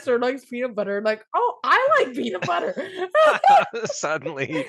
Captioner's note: both laugh